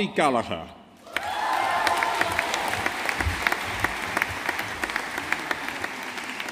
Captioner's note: audience applauding